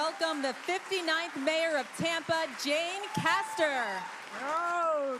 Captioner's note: applause